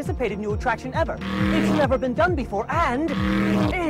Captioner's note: engine revving